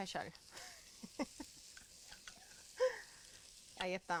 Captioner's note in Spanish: risas